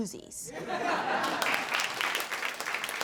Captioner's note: audience laughs